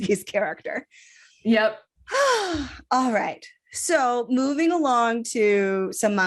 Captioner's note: sighs